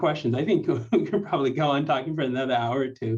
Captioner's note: laughter